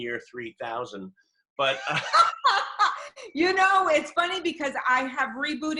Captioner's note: laughter